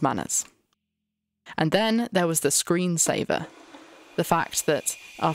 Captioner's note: shimmering glitchy sound